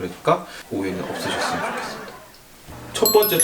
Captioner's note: laugh